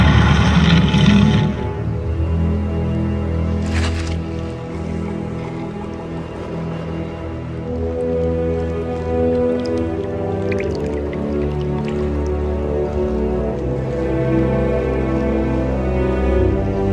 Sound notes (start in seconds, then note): 3.1 dinosaur grunts